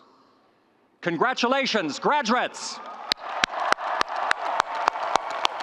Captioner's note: audience applauds